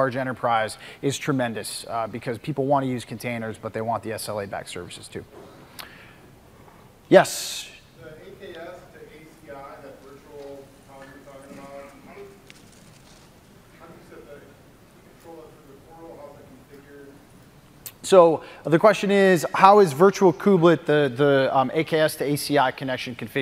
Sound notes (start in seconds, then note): 9.7 off mic